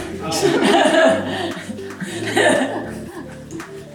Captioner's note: laughing